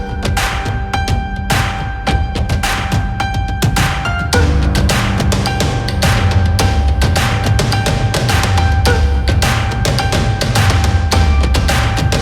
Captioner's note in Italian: Applauso